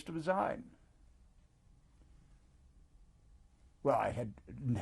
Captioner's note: pauses for 3 seconds